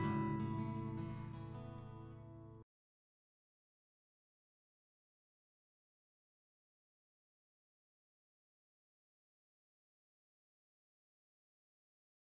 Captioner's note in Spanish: Silencio